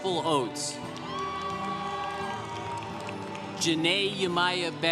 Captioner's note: congregation cheering